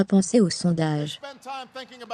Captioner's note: audience applauding